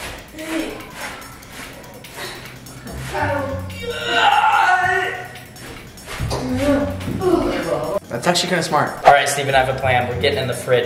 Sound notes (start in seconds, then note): 3.9 exhale of exertion; 9.0 woosh